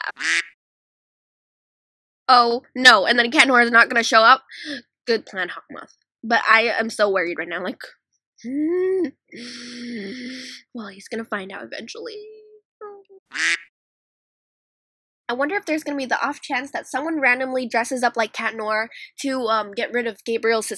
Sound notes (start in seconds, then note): 0.0 quack; 9.4 inhales; 13.3 quack